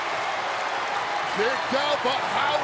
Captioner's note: applause